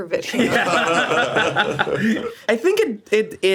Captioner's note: group laughs